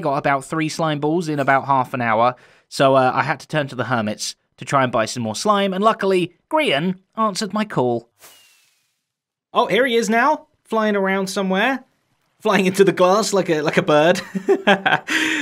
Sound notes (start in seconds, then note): 8.2 rockets whoosh; 14.1 chuckles